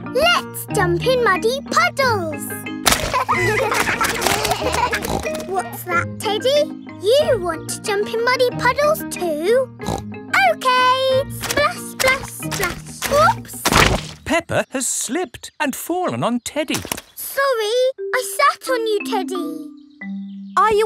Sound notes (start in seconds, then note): 2.9 kids laughing; 4.2 snorts; 9.8 snorts